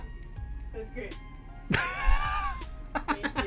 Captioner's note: laughs